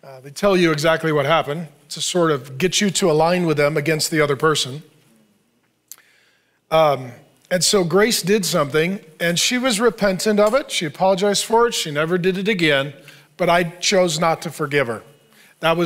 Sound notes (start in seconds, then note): none